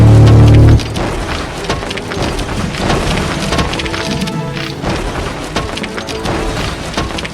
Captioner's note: machine rumbling; steps thudding